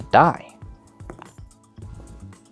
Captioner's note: dice rolling